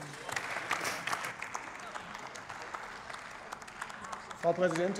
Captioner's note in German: Beifall bei der CDU/CSU